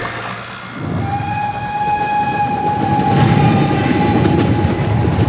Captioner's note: train whistling